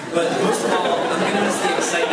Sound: laughs

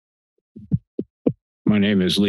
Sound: mic thumps

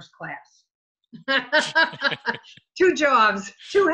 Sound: laughing

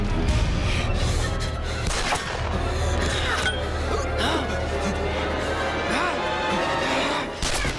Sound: gun shots

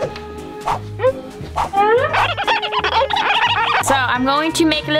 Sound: marker screeches

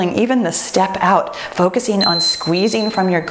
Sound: timer beeps

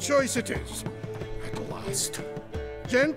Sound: mutters under breath

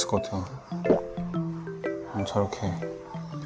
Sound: salivating

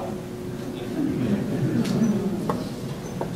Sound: laughter

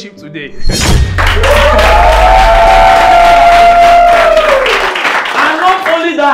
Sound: clapping

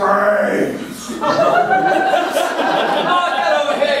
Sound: audience laughing

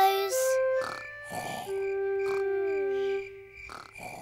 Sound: george snoring

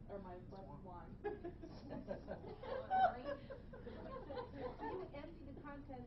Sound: laughing

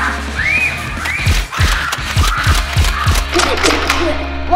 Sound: nerf shots

